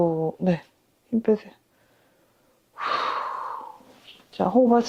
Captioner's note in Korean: 한숨